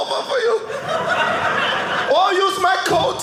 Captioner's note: audience laughing